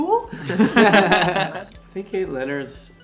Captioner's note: band members laughing